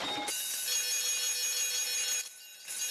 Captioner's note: ringing